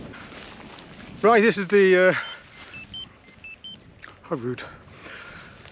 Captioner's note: interrupted by Zoleo beeping